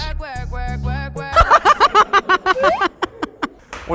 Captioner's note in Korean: ㅋㅋㅋㅋㅋㅋㅋㅋㅋㅋ